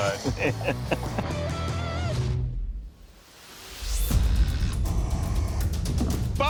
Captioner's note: laughs